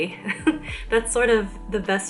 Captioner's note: chuckle